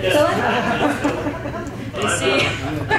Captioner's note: chuckles